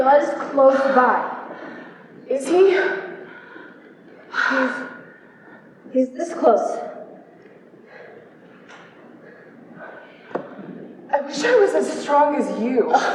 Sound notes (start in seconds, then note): 7.4 heavy breathing